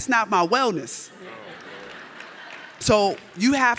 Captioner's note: audience laughs